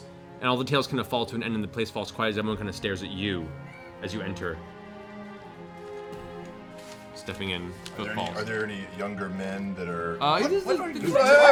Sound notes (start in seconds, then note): 5.7 heavy footstep sounds; 10.9 shushing noises